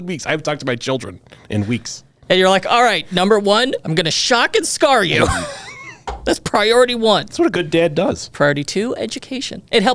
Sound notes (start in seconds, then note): 5.1 laughs